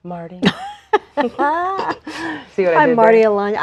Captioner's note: laughs